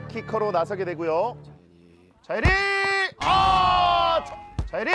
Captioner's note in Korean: 호루라기 소리